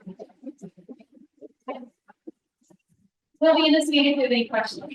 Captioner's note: attendees chattering